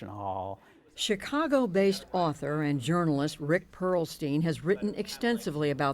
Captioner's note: voice-over